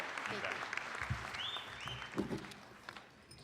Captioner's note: applause